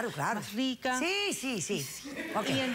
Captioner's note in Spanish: risas